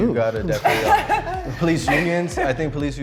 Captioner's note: laughs